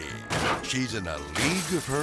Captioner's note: bat crashing